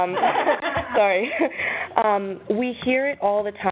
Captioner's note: laughing